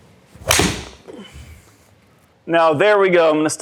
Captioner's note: club hit ball loudly